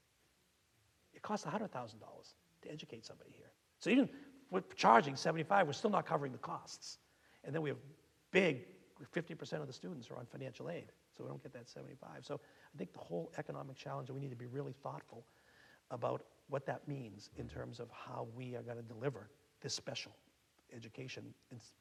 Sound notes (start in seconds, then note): none